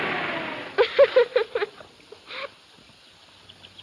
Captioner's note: laughing